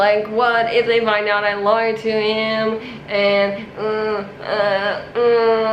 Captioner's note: groans